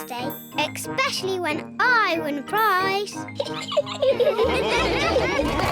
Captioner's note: laughs; all laughing